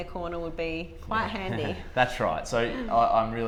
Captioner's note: laughing